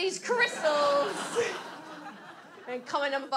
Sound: audience laughs

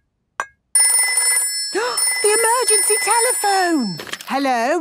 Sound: phone ringing, gasp

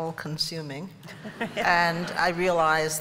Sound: laughter

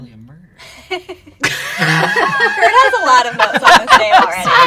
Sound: laughter

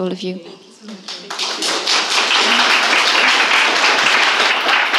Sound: audience applauding

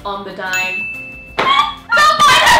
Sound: bell dings

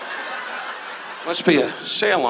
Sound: audience laughs

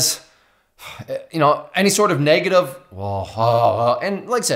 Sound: groaning

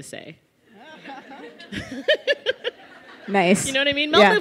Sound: laughter

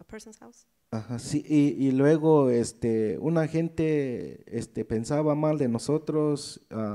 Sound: speaks in foreign language

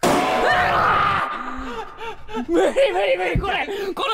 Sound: sensei hysterically laughing

